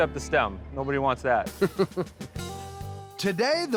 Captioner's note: chuckles